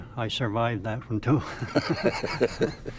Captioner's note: laughing